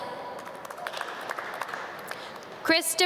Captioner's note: audience clap